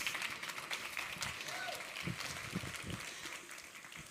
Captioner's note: audience applauding